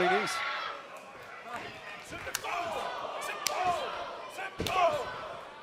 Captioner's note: crowd chatter